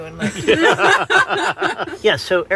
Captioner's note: laughter